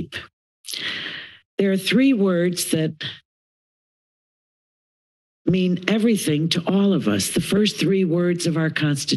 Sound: inhales

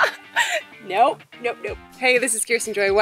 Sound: nervous

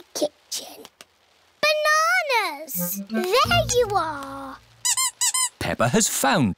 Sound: squeaking

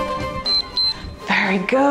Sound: timer beeps

